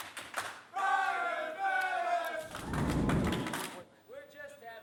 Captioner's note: crowd cheering